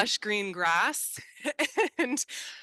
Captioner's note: laughs